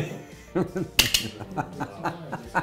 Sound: laughs; tong clatters; laughs

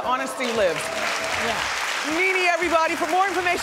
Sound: audience applauds

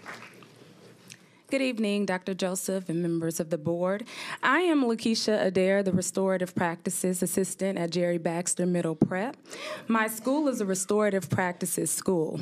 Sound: applause

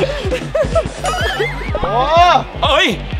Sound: laughs

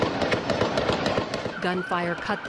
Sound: gunfire

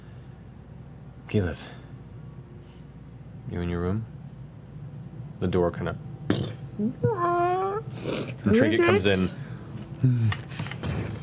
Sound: creaks

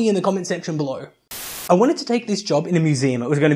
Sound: Static

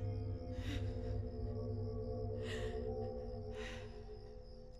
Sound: shaky breathing

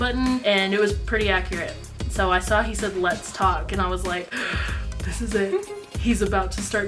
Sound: gasp

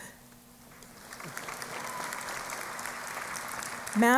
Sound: applause

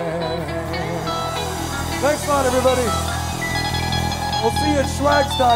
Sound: crowd cheering

